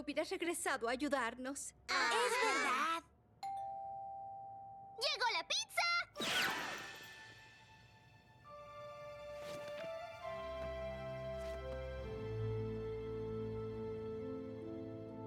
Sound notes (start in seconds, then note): 3.4 doorbell rings; 6.2 whoosh; 8.2 sad theme